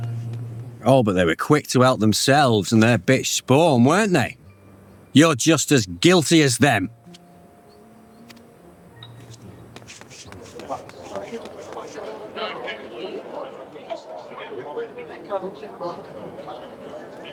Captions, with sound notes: Oh, but they were quick to help themselves and their bitch spawn, weren't they? You're just as guilty as them. [footsteps] [indistinct chatter]